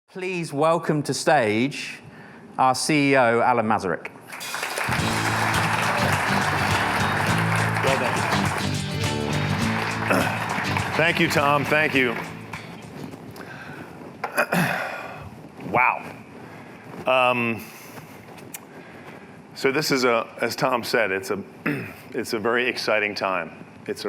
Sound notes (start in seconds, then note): 4.3 audience applauding; 4.8 energetic music